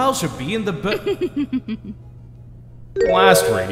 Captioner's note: devilish chuckle